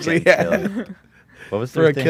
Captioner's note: laughs